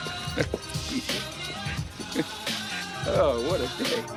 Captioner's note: laughing